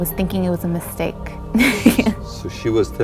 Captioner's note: laughs